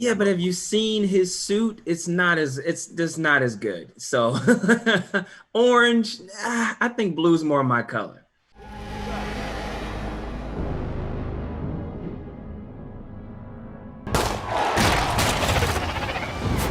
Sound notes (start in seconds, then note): 4.2 laughing; 8.5 intense music; 14.1 gun shot